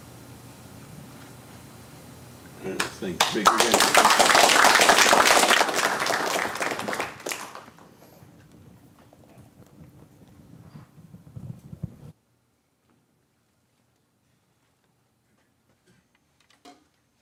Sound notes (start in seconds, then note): 2.7 applause